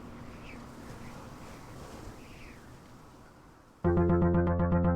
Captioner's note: wind whistles; brooding synth music